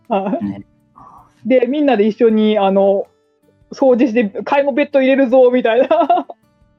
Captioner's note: laughs